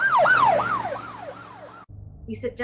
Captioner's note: police siren